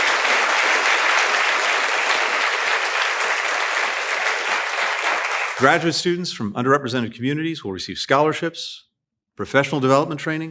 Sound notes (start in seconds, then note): 0.0 applause